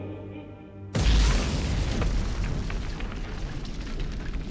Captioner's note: explosion booms